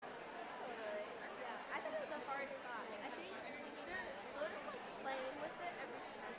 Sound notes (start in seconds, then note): 0.0 chatter